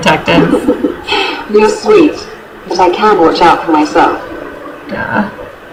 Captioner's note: giggles